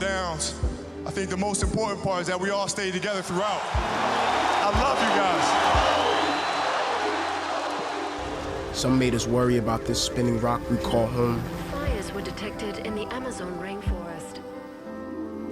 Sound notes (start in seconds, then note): 5.7 cheers and applause; 8.3 crowd chanting kobe